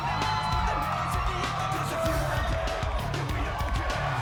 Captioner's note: crowd cheering